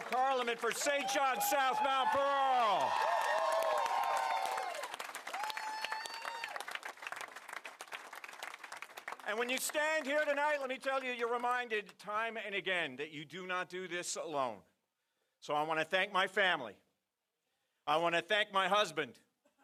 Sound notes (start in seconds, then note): 9.8 applause & Cheering